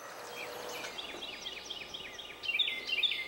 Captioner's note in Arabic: طيور تغرد